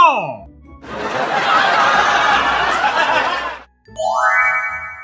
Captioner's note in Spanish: Risas